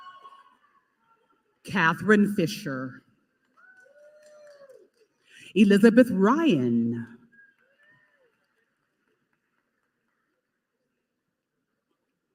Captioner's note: applause